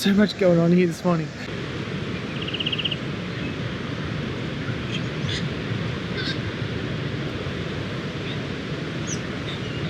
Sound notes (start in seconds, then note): 1.5 wave sounds and bird makes a trilling call; 5.3 wave sounds and birds chirping